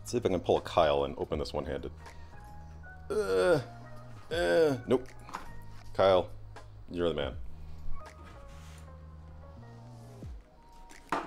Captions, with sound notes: See if I can pull a Kyle and open this one-handed. (grunting) Nope, Kyle, you're the man. (calm music)